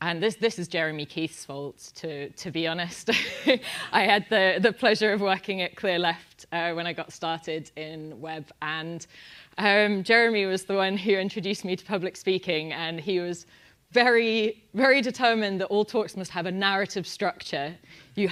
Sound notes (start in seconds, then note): 3.2 laugh